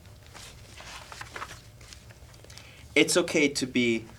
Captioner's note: sound of pages turning